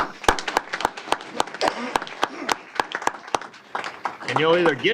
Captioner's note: applause